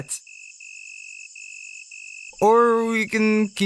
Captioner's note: crickets chirping